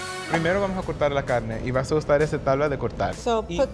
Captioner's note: speaking Spanish